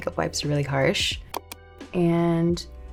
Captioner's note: mouse clicking